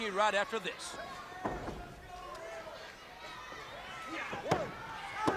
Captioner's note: crowd chattering